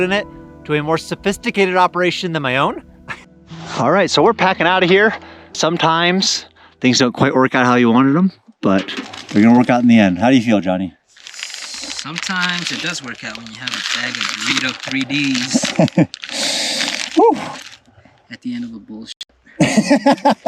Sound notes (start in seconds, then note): 15.4 laughter; 15.5 Doritos bag crackling